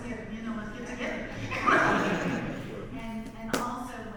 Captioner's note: audience laughs